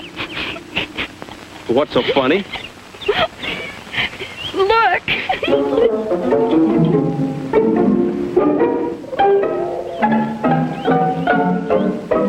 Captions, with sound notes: (Penny giggles) What's so funny? - Look. (giggles) (jaunty orchestral music)